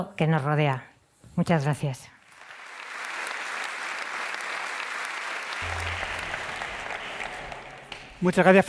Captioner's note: applause